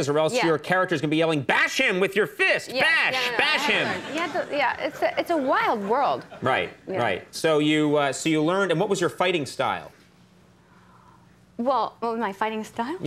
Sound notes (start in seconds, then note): 3.2 audience laughing